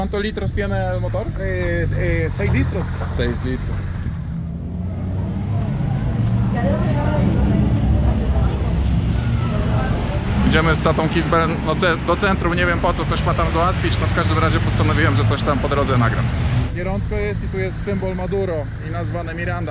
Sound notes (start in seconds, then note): 4.8 traffic noise